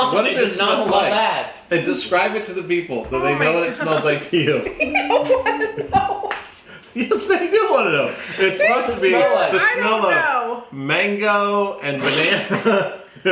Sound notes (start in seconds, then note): 4.6 laughing